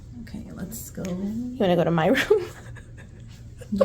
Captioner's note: laughint